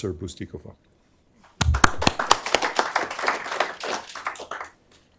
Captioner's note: applause